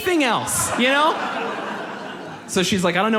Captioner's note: audience laughs